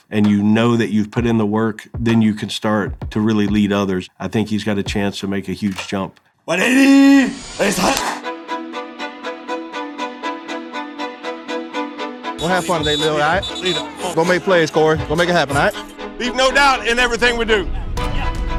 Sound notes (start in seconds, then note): 8.3 intense music; 12.4 whistles